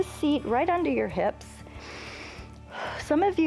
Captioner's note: inhales